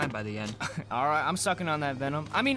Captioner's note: Joey chuckles